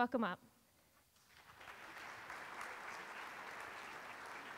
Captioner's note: audience applauds